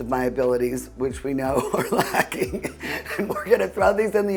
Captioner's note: laughs